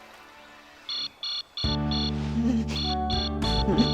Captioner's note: alarm ringing